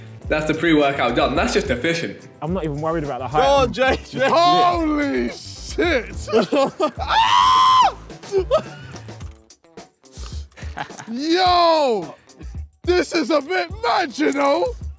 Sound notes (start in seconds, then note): 7.0 screams loudly